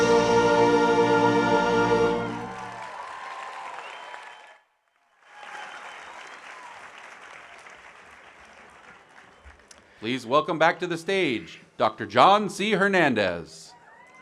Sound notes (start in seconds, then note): 2.1 audience applauding